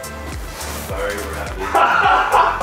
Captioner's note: laughing